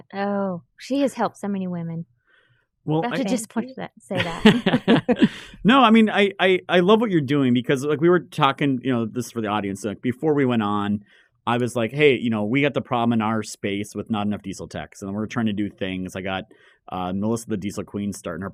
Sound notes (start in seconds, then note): 4.2 everyone chuckling